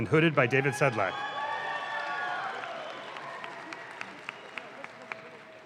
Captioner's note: audience claps